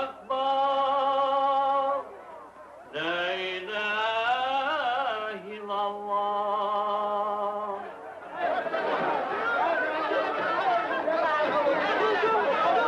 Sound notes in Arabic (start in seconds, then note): 9.2 حشد من الناس يصرخون